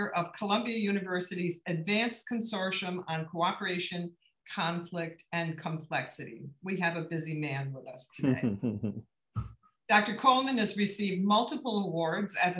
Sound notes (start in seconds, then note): 8.2 laugh